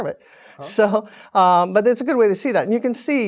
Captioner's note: laugh